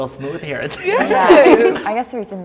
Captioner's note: laughs